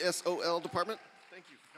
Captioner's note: applause